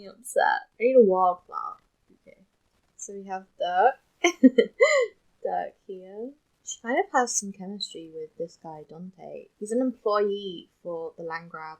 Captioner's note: laughs